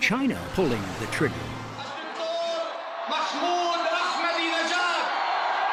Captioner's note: man speaking farsi